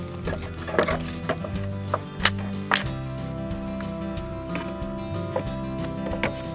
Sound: wood cracking and separating

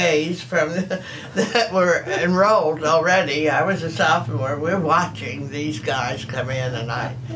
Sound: laughs

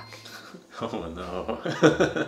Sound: laughs

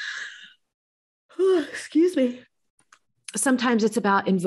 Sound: yawns

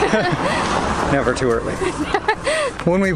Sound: laughter

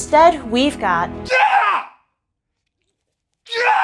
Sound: screams

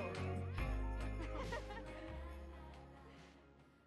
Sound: laughter

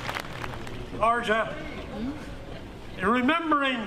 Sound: applause

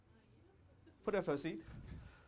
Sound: audience murmuring

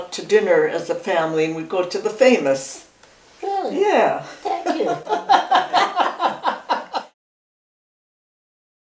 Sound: laughing

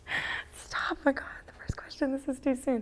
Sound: whispers

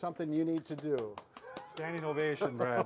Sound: clapping of hands

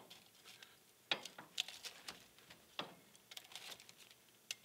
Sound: metal rattling

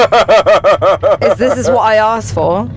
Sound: laughing

